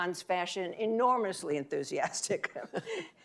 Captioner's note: laughing